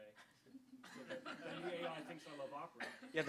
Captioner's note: audience laughter